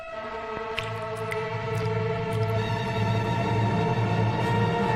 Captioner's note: eerie music; liquid trickling; sinister music